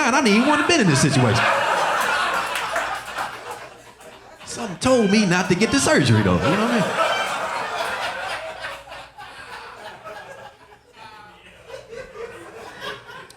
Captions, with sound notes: I wouldn't have even been in this situation. (audience laughing) Something told me not to get the surgery though, you know what I mean? (audience laughing)